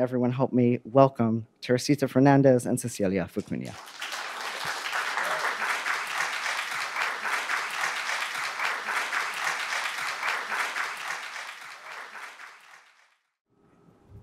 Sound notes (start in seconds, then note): 3.6 audience applaud